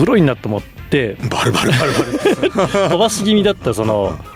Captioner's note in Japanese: 笑い